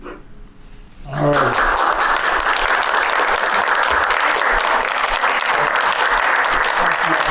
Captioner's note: applause